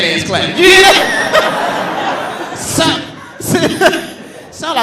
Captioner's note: all laughing